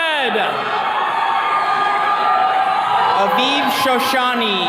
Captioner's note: attendees cheering